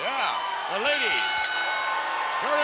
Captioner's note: bell dinging